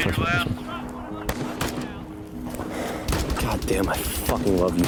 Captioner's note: automatic weapons chatter